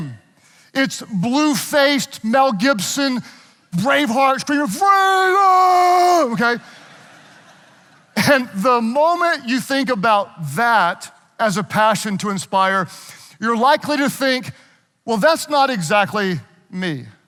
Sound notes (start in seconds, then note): 6.5 audience laughing